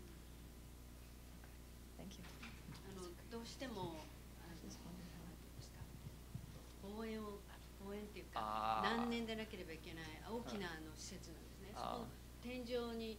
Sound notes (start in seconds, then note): 3.1 non-english speech